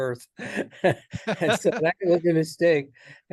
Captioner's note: laughs